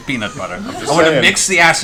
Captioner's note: laughter